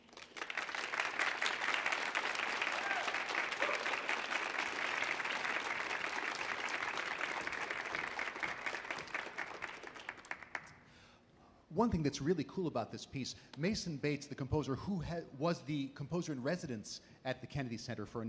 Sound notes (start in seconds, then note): 0.3 audience applauds; 3.0 audience cheers